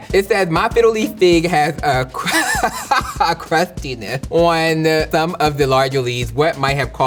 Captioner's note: laughs